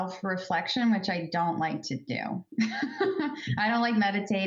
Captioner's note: laughs